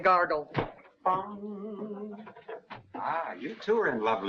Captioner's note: man humming